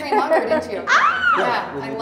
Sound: laughs; Sydney squealing

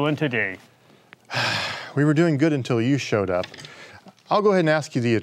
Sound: sighing

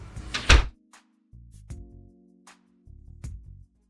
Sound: door slams

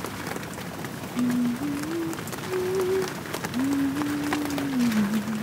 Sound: humming

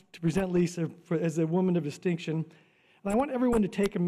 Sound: none

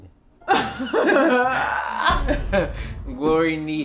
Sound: laughing

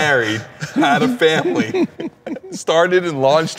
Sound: Ken laughing

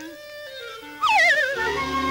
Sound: sliding whistle

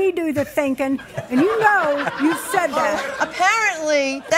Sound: audience laughs

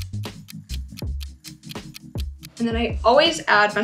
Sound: clock ticking

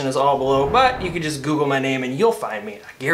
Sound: air whooshing

